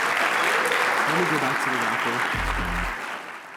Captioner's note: applause